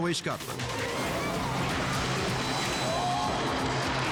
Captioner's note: car crashes